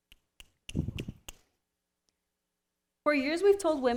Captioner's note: snapping